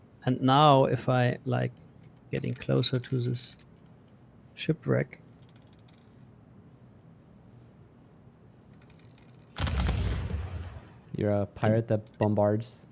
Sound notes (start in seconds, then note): 5.0 creaking sound continues; 9.6 volley of booming sounds